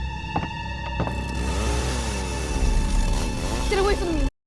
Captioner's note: chainsaw